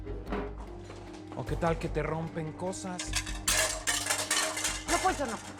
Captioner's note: Estruendo